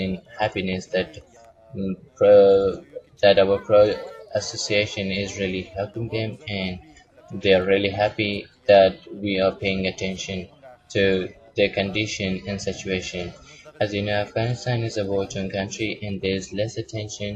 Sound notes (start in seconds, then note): 1.6 Vietnamese; 6.6 Arabic; 8.3 Vietnamese; 12.3 Vietnamese